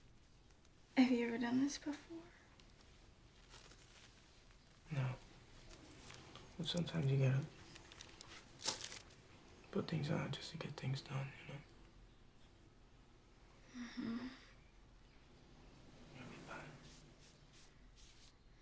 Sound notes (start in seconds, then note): none